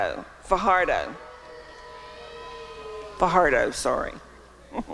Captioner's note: chuckling